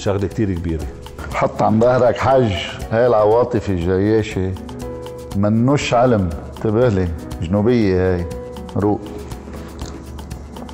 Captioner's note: in Southern dialect